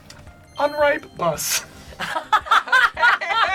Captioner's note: word twinkles; group laughs